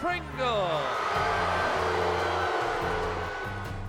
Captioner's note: crowd boos